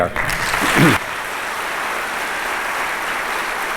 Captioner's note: applause